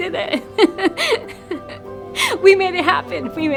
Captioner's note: laughs